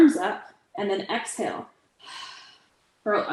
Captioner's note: exhales